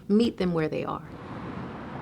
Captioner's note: car engine revving